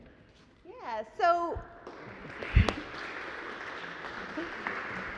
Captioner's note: audience applauds